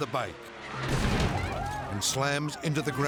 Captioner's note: spectators shouting; impact pounds